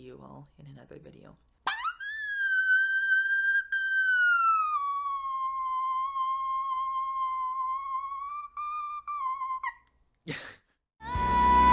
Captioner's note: laughs